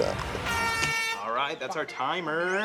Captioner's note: foghorn honking